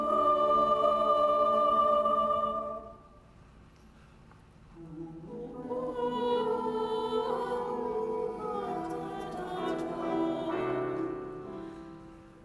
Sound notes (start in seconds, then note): none